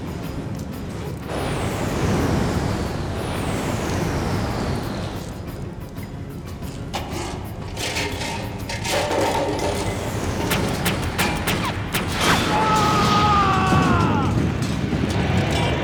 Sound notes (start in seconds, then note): 8.7 clattering; 12.4 groaning